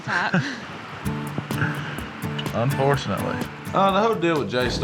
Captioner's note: chuckles